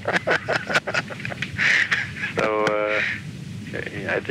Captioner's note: laughs